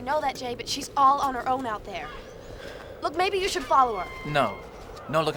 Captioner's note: none